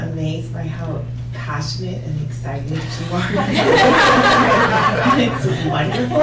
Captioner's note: laughter